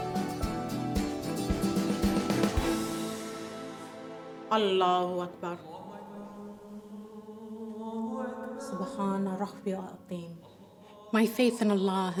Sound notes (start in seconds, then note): 4.8 speaking foreign language